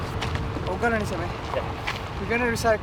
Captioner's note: speaking in foreign language